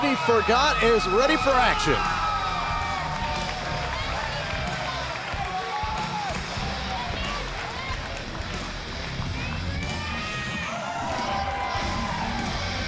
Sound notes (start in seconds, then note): 2.0 crowd cheering